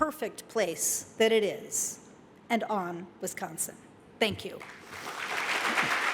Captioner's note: applause